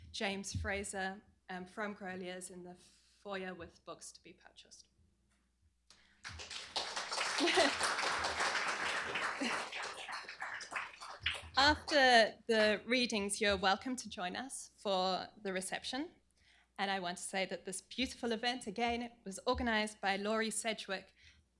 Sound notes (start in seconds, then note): 6.2 applause